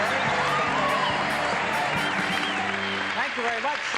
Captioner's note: cheering, applause